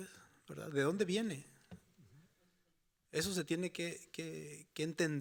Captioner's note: speaking Spanish continues